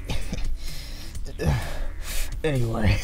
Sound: sus grunt

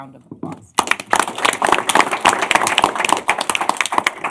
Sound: applause

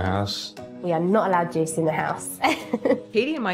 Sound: laughs

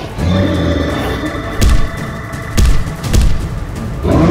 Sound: thumps

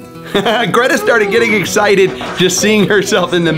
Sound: laughs

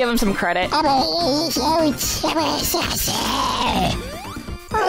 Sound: Kylo Ren Baby voice

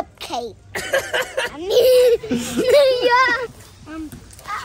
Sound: laughing

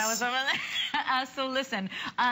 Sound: laughter

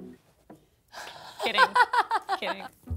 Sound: laughs

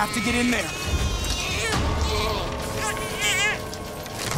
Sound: crying

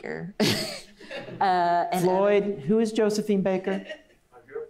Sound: laughs; laughs

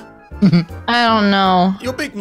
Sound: laughs

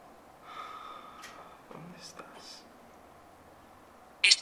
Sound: exhales disappointedly

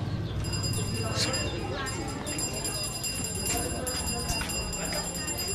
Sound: bell ringing

